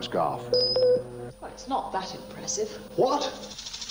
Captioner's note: ping ping!; ping!